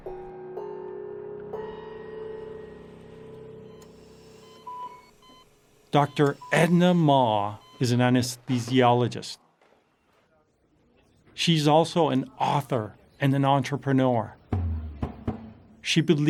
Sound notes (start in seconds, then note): 0.3 cymbal music; 2.4 heart monitor beeping; 10.2 people chattering; 14.5 tense drumming music